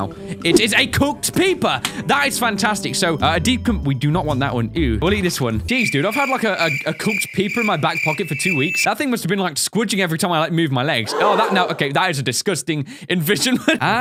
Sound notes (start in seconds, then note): 5.8 cricket; 11.1 audience gasps